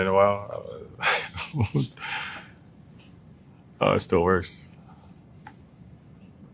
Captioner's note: laugh